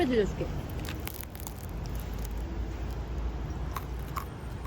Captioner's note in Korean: 바삭